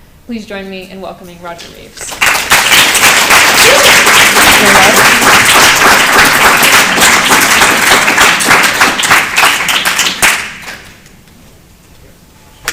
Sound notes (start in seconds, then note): 2.8 applause